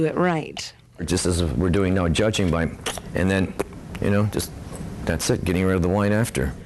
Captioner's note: spitting noise